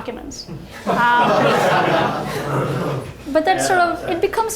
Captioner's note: audience laughing